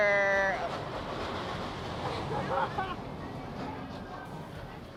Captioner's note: ride rattles